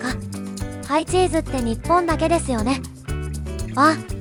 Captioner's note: laughs